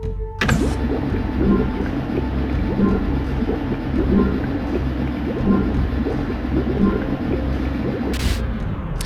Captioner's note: thrumming and beeping; thrumming gradually stops